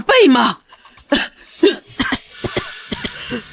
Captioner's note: cough cough cough